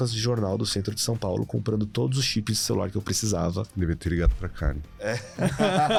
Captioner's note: laughs